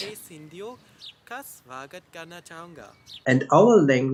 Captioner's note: speaking in Hindi